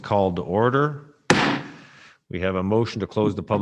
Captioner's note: gavel bangs